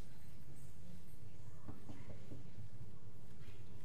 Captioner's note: knocks on door